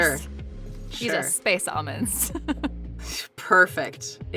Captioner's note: chuckles